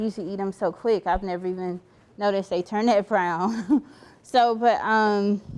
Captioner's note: chuckling